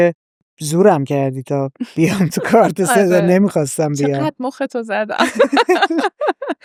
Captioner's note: laughs